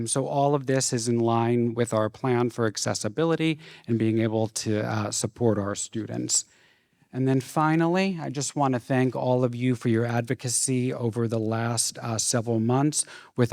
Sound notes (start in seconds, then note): none